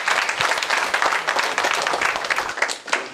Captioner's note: applause